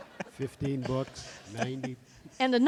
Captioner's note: laughter